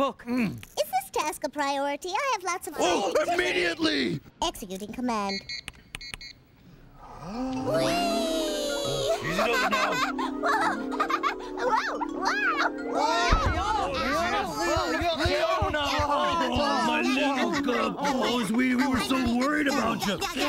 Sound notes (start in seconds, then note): 5.3 beeping, clicking; 8.8 giggling; 13.3 thud